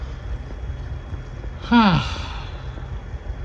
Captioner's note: sighs